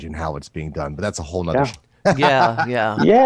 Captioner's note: laughs